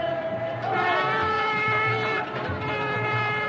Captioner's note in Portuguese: Buzina